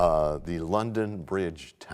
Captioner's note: bell chimes, time expires